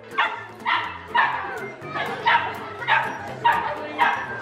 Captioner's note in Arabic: نباح كلاب